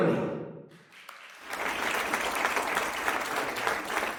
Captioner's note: audience clapping